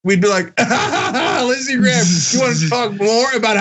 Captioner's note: laugh